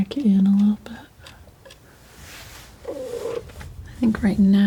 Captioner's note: scratching